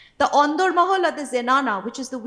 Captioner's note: speaking foreign language